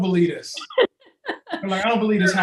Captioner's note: laughs